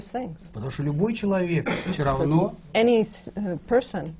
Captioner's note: foreign language not transcribed